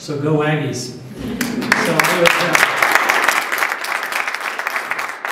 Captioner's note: applause